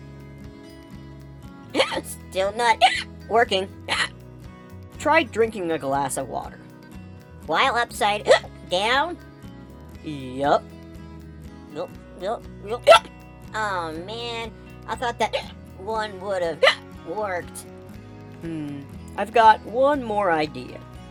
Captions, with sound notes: *hiccup* Still not *hiccup* working. *hiccup* Try drinking a glass of water. While upside *hiccup* down? Yup. *gulp* *gulp* *gulp* *hiccup* Awe man. I thought that *hiccup* one would have *hiccup* worked. Hmmm. I've got one more idea.